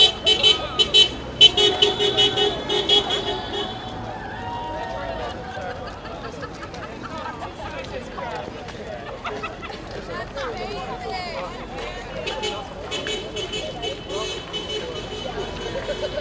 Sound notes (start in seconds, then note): 9.1 laughing; 12.2 horn honking